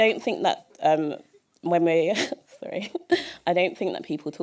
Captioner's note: chuckle